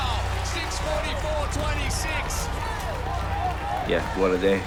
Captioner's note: cheering